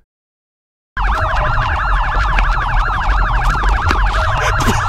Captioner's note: police sirens